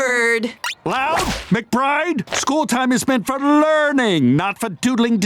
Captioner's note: none